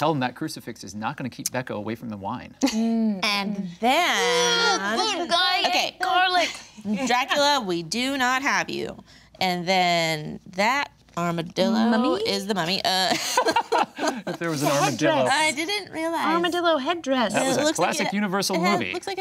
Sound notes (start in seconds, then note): 4.1 groaning; 13.1 group laughing